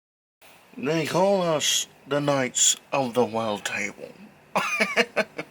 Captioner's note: laughs